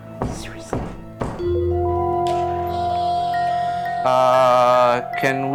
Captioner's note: door knocking